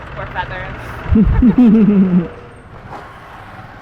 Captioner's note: both laugh